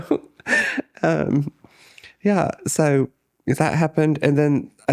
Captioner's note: laughs